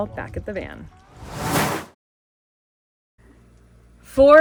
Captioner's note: air whooshes